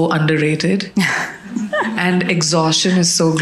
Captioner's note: audience laughing